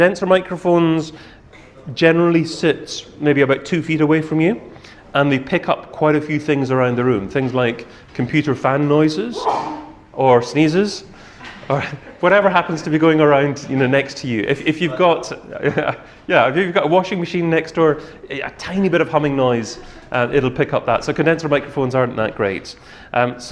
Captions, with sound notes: But condenser microphones generally sit maybe about two feet away from you, and they pick up quite a few things around the room. Things like, computer fan noises, (audience member sneezes) or sneezes, whatever happens to be going around next to you. Yeah, if you've got a washing machine next door, a tiny bit of humming noise, it'll pick up that. So, condenser microphones aren't that great.